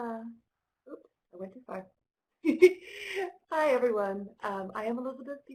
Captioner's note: laughter